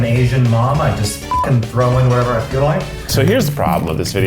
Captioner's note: beep